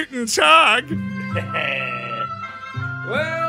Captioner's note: guy in video chuckles